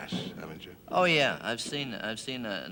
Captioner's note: stammers